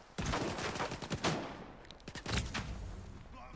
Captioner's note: gunshots